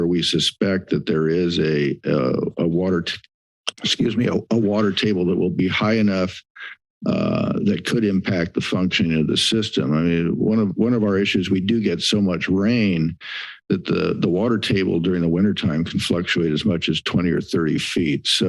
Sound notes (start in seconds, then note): 1.8 clears throat